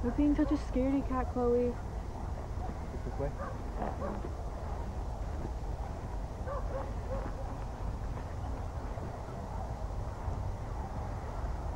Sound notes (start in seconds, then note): 4.3 dogs barking